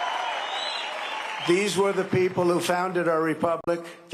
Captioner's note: cheering and applause